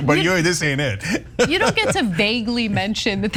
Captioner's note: laugh